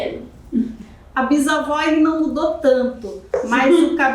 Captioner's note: speaking portuguese